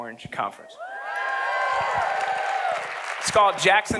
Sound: audience applauding

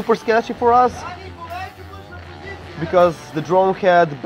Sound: shouting in Slovenian

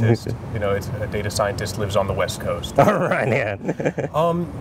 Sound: laughter

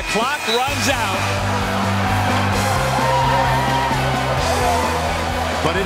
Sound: celebratory cheers

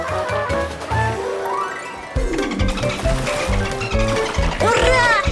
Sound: splashes of water are heard

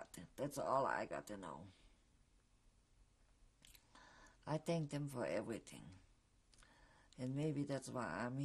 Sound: pauses for 3 seconds

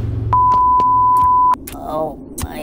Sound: beep

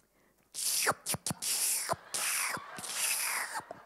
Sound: sucking

